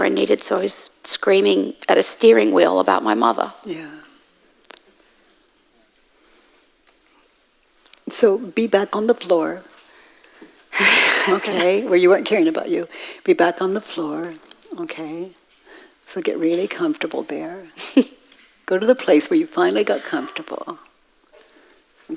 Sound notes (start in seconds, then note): 10.7 woman in white laughs; 17.8 woman in white laughs